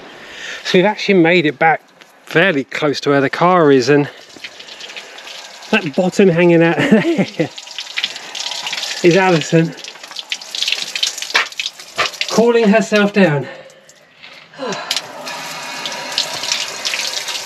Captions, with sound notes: So we've actually made it back fairly close to where the car is and that bottom hanging out there [Laughter] is Alison. Cooling herself down.